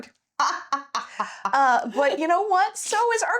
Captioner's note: laughing